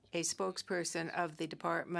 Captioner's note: speaking French